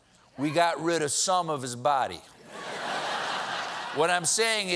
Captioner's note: laughter